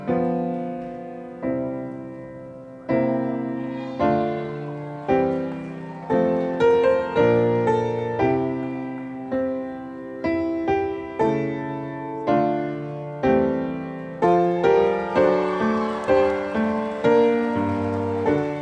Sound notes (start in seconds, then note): 3.4 audience whooping; 14.2 audience cheering